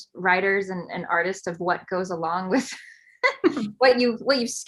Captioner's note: laughs